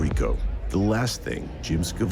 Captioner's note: electronic scratching